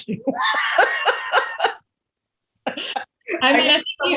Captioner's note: laughs